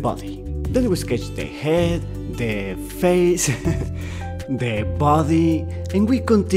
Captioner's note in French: rires